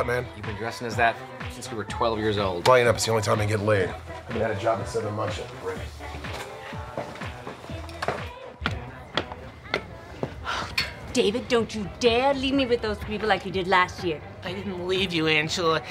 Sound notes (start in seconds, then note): 9.1 heels clicking